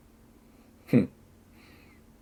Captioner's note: laughs